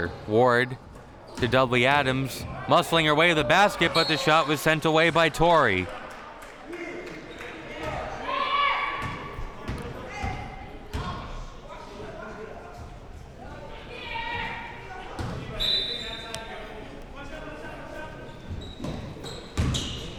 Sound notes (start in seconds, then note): 15.5 whistle blowing